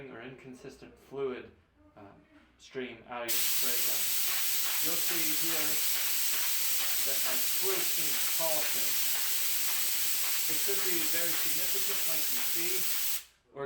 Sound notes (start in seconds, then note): 4.3 spray gun hissing